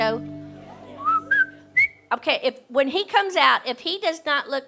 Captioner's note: whistling